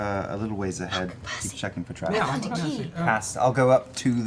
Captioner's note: whispers